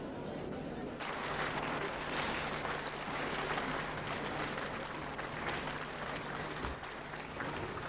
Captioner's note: applause on shri mataji's arrival